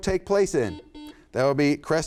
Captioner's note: buzzer sounds